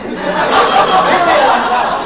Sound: crowd laughs

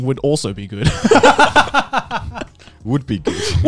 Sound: both laughing

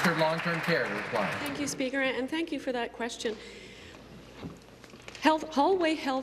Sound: applause

